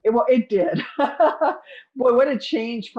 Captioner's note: laughs